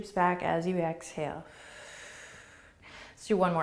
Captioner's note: exhaling